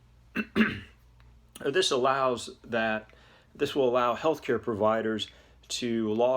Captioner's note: clears throat